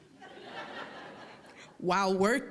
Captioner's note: audience laughing